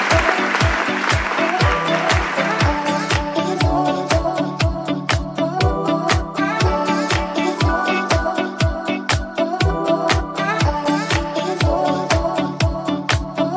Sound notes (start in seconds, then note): 2.2 applause